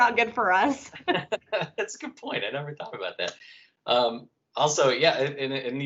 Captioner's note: laughter; laughter